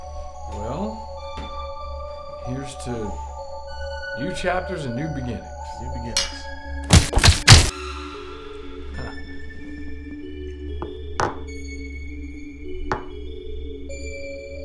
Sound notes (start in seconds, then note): 6.8 weapons thudding; 7.4 bottles clink; 9.8 mysterious music